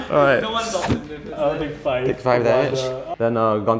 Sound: laughs; players chattering

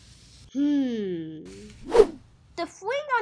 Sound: loud whoosh

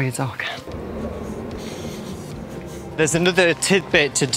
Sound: riverboat engine

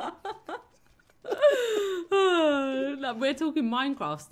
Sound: laughing continues

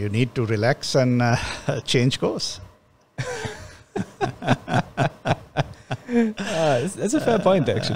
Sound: laughs

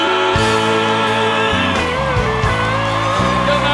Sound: cheers and applause

